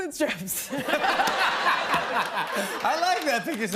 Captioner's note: laughter